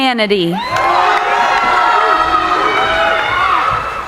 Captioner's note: cheering